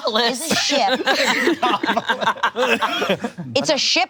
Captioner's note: all laughing